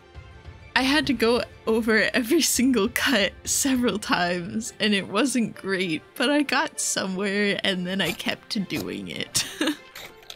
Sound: laughter

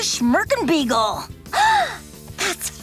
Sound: gasping

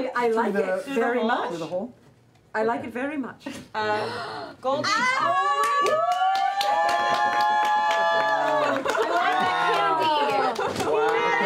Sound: cheering

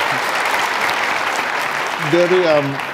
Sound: audience applauding

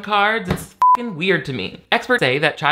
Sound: beep

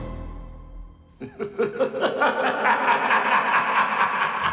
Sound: evil Laugh

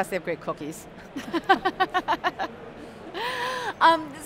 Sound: laughing

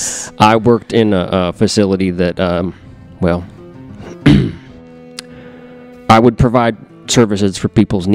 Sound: clears throat

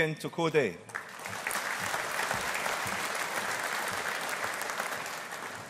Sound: audience applauding

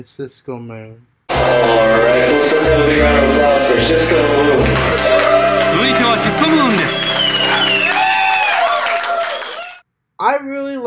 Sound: announcer said in English and Japanese

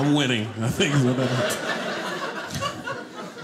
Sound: audience laughing

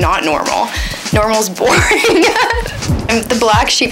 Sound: laughs

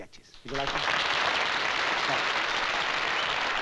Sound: applause

